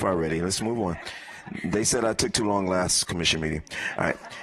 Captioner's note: laughter